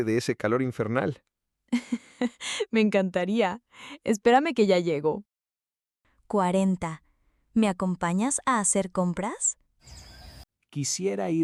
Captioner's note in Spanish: risas